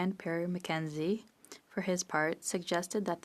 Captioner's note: speaking French